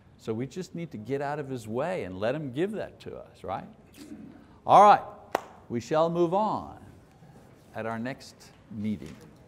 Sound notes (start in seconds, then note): 5.3 clapping